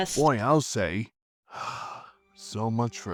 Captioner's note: sigh